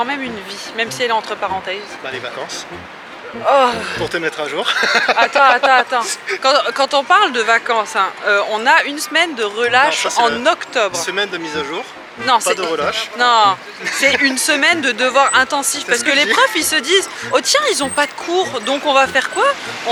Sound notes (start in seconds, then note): 5.1 laughs